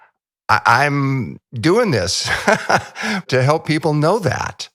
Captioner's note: laughs